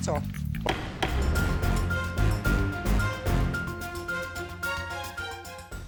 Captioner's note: light music; dramatic music; gavel thumping